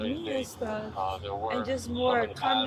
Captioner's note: radio chatter